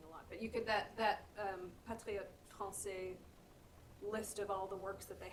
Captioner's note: french